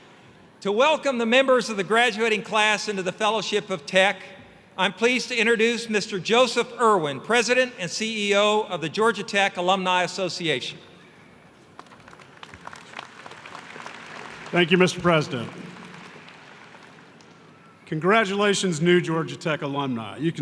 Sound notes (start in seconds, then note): 11.7 applause